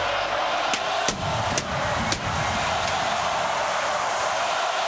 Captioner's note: pyro bangs